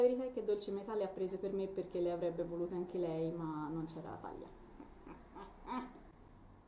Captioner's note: chuckle